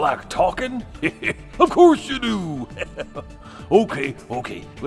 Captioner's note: chuckle